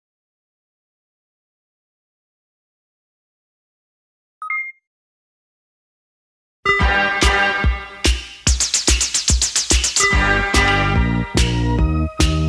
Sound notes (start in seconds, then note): 4.5 bell chimes; 8.9 upbeat new wave music